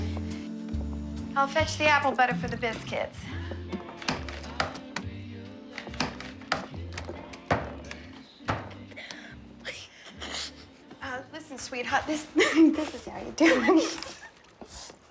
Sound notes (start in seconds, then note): 5.1 both chuckling; 12.0 laughing